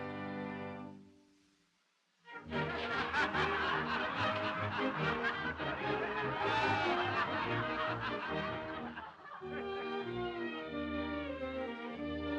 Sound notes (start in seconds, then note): 2.4 audience laughs